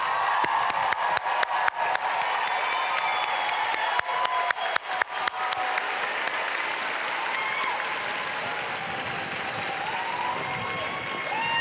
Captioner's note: applause